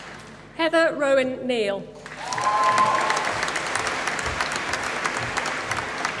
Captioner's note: applause